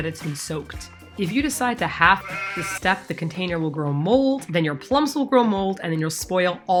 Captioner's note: baahhh